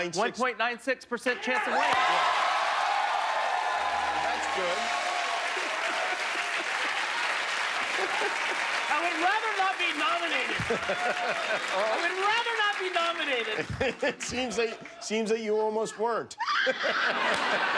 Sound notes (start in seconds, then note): 3.8 cheers and applause